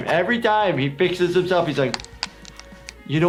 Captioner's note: none